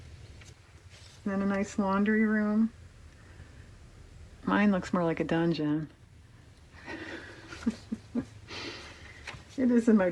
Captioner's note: laughs